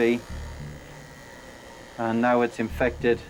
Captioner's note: shaver humming